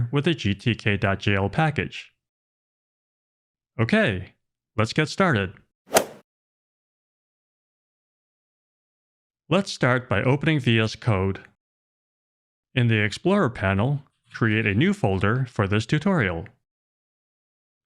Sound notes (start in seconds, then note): 5.9 golf swing sound effect